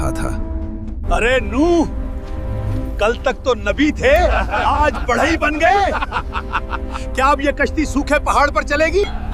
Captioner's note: laughs